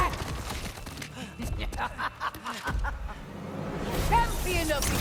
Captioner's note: laughs